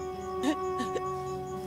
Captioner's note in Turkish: Ağlıyor